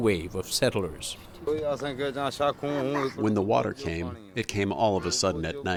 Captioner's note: through translator